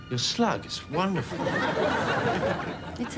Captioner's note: audience laughs